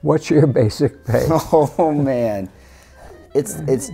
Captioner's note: laughing